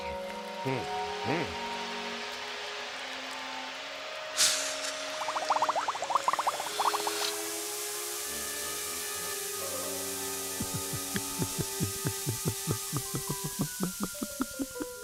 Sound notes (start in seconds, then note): 11.5 water draining